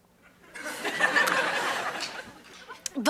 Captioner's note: audience laughing